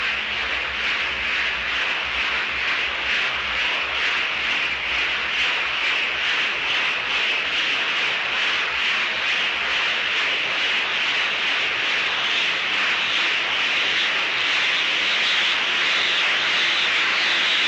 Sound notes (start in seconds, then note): 9.8 swirling sounds peak and stop